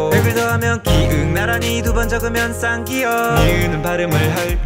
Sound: 'kk' sound

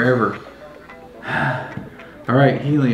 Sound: sighs

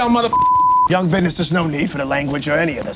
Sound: beep

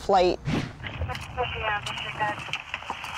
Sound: police radio

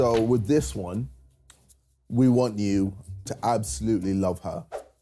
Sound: none

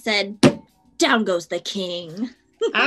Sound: slams hand on table

